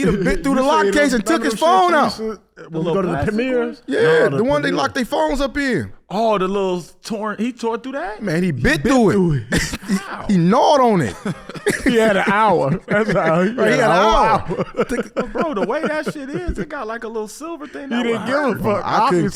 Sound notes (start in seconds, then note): 13.1 laughs